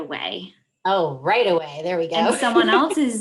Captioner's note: laughs